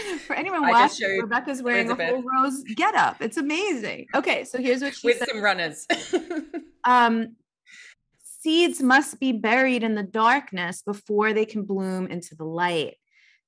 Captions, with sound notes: - For anyone watching Rebecca's wearing a rose get up. It's amazing. Okay. So here's what she says. - With some runners. (laughs) - "Seeds must be buried in the darkness before they can bloom into the light.